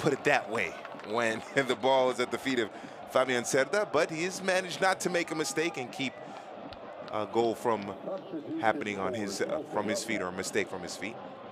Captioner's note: laughing